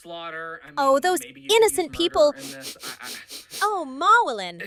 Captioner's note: sniffs